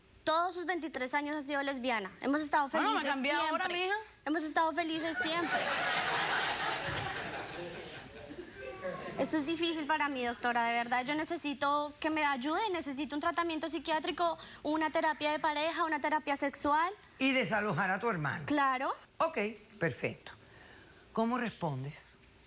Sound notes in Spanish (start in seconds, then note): 5.0 Risas del público